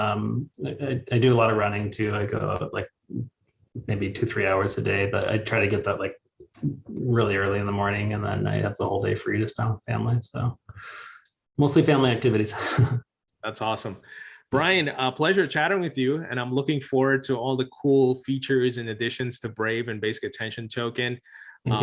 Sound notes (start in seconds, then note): 12.5 chuckles